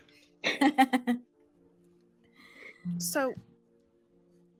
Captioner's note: laughing